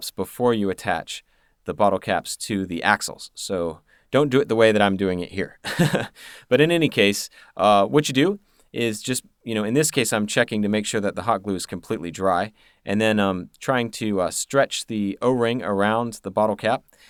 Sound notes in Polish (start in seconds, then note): 5.6 śmiech